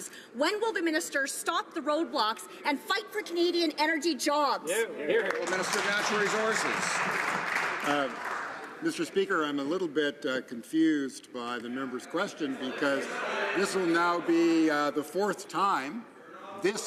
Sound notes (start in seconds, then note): 7.4 some Applause